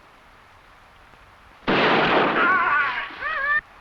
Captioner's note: gunshot blasting; animal calling; warrior groaning